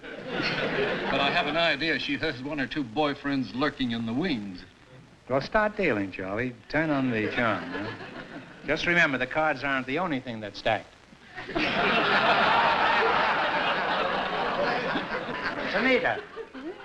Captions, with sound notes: [LAUGHTER] But I have an idea she has one or two boyfriends lurking in the wings. Well, start dealing, Charlie. Turn on the charm, huh? Just remember, the cards aren't the only thing that's stacked. [LAUGHTER] Sunita?